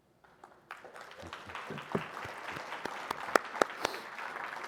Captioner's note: audience applauding